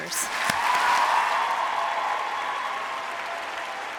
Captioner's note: applause